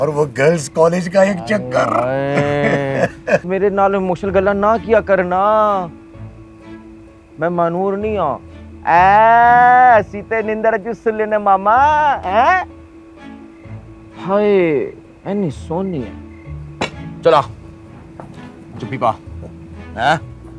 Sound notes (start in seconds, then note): 1.4 laughs; 8.9 mumbles in punjabi